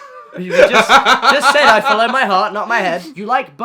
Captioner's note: laughs